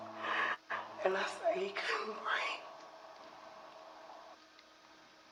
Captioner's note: sobs